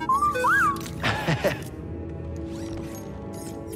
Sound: laughs

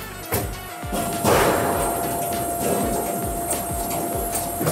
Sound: machine punching; machine humming

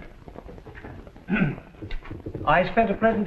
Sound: clears throat

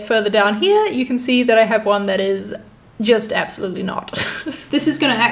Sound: chuckles

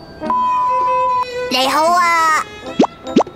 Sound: Cantonese

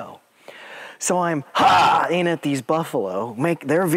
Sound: yells

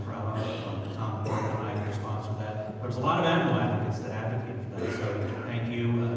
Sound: speech drowned by coughing

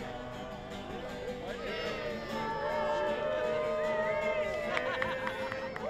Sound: cheering and applause

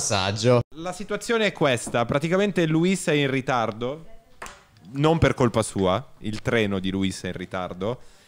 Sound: in Italian

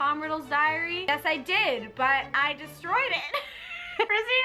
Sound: laughs

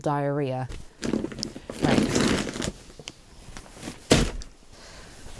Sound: bag rustles and thuds

